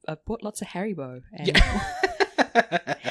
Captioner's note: laughs